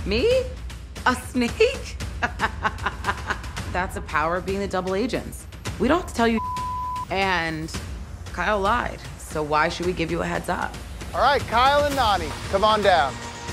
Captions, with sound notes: - Me, a snake? (laughing) That's the power of being a double agent. We don't tell you, (beep). And Kyle lied. So why should we give you a heads up? - All right, Kyle and Nany, come on down.